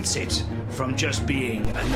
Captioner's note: bass noise rumbles